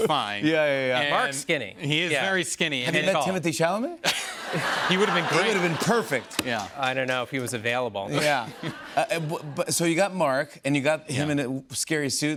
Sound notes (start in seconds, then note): 4.0 laughter